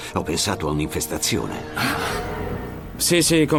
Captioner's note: both gasping